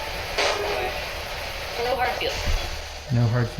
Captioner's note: spirit box voice